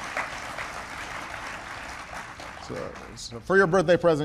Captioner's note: applause